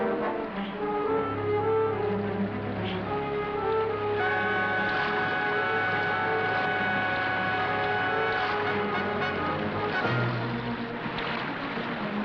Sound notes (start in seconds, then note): 4.3 water burbling